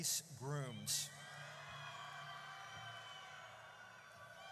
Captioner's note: audience cheers